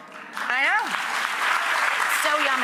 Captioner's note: audience applauding